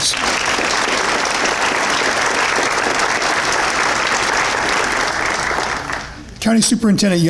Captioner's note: applause